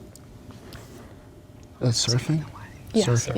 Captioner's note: whispering